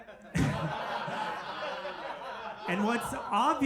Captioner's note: audience laughing